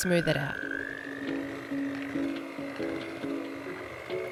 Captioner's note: whirring